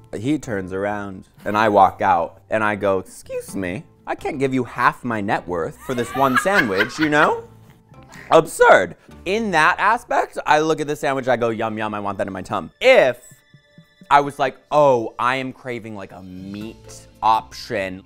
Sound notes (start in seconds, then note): 5.8 women laughing